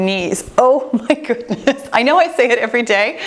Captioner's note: chuckles